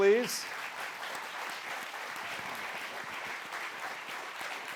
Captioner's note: applause